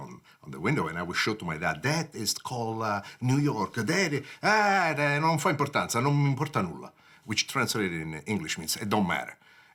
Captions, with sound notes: in the window and I would shout to my dad, "That is called a New York, that." "Ah, (speaking Italian)." Which translated into English means it don't matter.